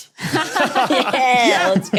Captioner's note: group laughing